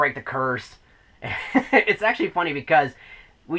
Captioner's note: laughs